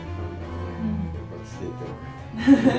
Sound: laughs

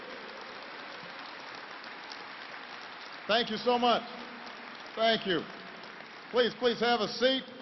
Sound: applause

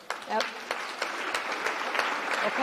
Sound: applause

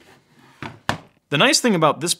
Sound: hard drive thudding

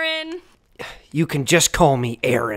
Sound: sigh

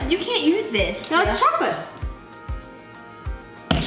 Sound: none

